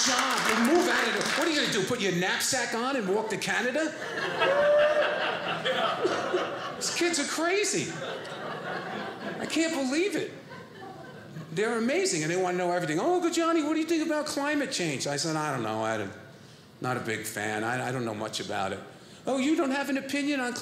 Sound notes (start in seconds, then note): 3.9 audience laughing